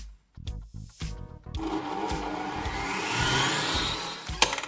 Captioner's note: mixing sound